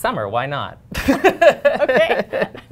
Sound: laughter

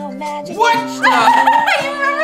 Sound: laughs

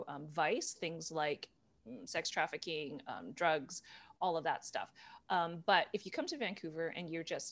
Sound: none

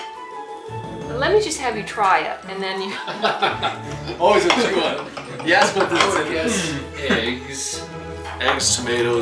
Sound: laughs

